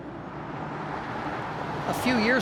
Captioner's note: engine running